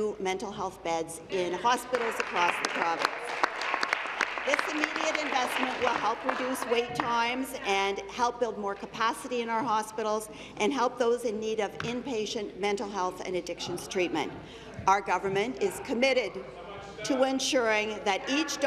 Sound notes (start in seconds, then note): 6.2 applause